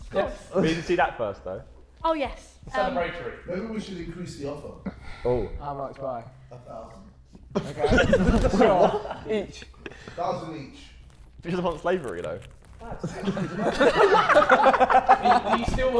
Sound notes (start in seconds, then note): 7.5 Sidemen laughing; 13.0 Sidemen laughing